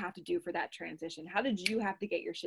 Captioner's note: snaps